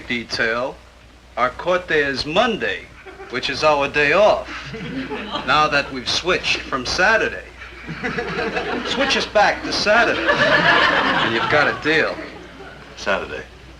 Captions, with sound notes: - Yeah but if we go back on traffic detail, our court date is Monday, which is (audience tittering) our day off. Now that we've switched from Saturday. Switch us back to Saturday, (audience chuckling) and you got a deal.